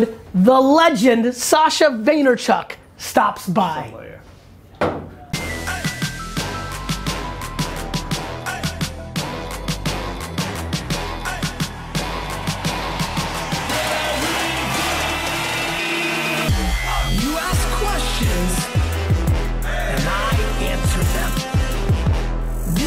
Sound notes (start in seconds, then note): 4.8 bottle thuds; 5.4 hip hop music